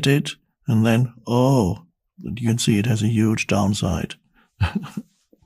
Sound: laughs

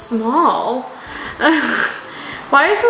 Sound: laughs

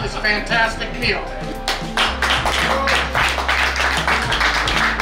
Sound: cheering and clapping

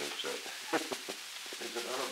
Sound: laughter

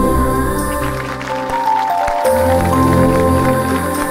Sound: applause

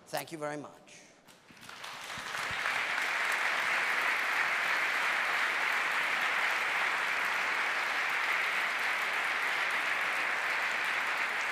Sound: applause

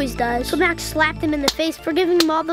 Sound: slap, slap

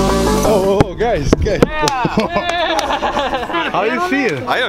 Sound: laughing

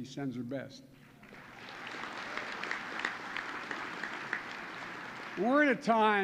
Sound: applause

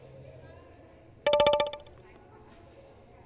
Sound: text alert

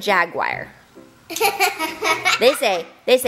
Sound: laughter

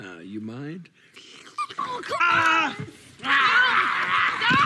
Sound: Bones laughing; screaming

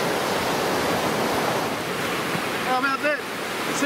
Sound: waves crashing

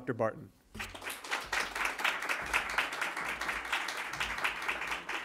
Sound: applause

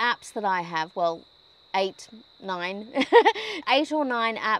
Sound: chuckles

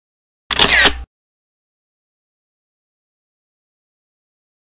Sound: camera shutters

